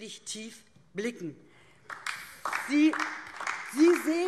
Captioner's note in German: Beifall DIE LINKE